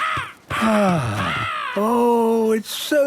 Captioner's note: giggling; gull squawking; sighing